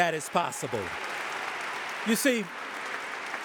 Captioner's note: audience applauding